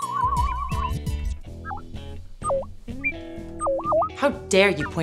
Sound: SFX: Bleeps and bloops

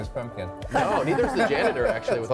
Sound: laughter

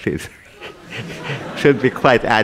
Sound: laughter

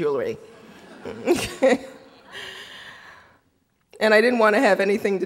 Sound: audience laughing

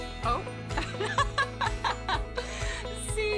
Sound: laughing

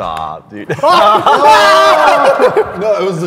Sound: laughing

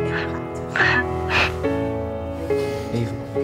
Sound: girl on phone sniffles

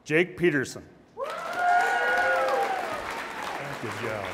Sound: audience applauds and cheers

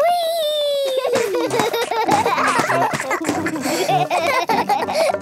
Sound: both laugh

